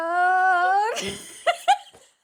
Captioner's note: laughs